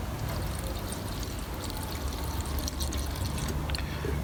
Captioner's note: liquid pouring